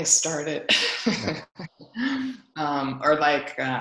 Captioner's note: laughs